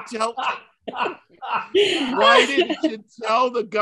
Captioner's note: Martin laughing